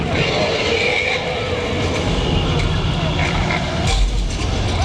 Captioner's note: dinosaur roaring; drums beating